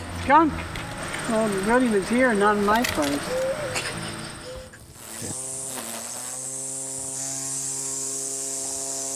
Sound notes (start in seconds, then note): 3.0 laughs